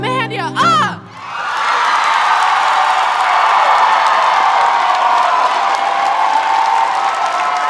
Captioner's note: audience cheering; audience applauding